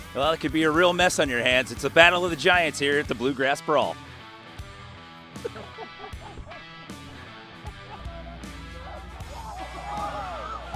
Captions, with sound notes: Well, it could be a real mess on your hands. It's a battle of the giants here at the Bluegrass Brawl. [LAUGHTER]